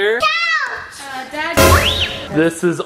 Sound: screams

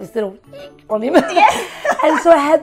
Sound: and Interviewer laugh

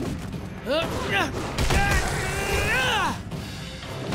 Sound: grunting

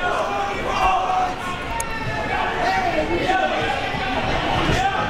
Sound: crowd members shouting

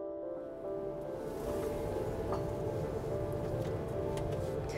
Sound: fans blowing

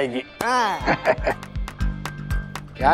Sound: laughs

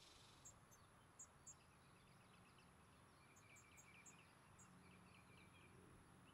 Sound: bird song

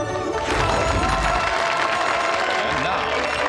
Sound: audience applauding; audience cheering

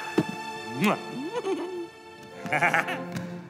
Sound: laughing maniacally; kisses, giggles; chuckles

